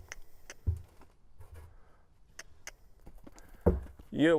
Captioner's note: clicks tongue